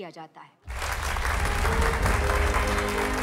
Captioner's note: Clapping